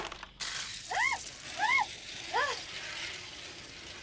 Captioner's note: Leila screams